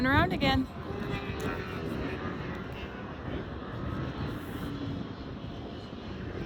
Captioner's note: engine roaring